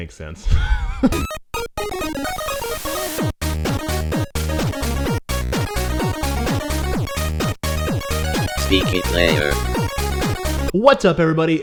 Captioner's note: laughs; theme music